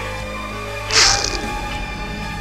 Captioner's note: squish